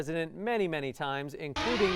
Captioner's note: timer